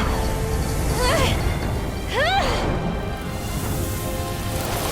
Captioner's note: fox girl grunting